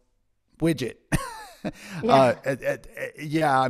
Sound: laughs

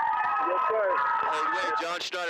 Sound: screaming

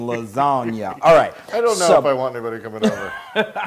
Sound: laugh; laugh

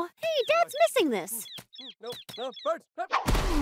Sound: tweeting; crashing

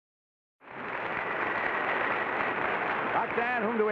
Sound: audience applause

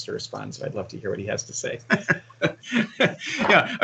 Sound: laughs

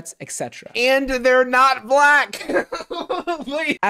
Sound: laughs

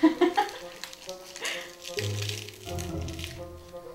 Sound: laughing

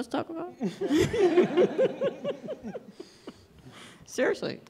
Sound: laughter

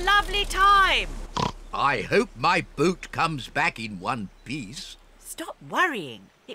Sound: oinks

